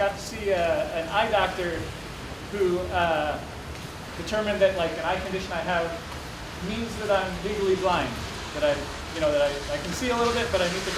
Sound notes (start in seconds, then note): none